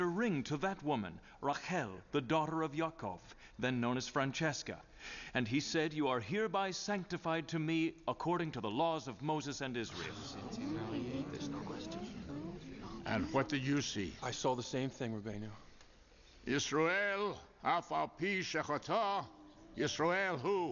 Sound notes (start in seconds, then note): 9.9 crowd murmurs; 17.1 speaking Hebrew